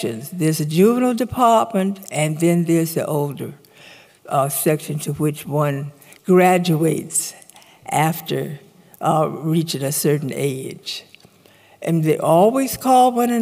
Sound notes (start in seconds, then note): none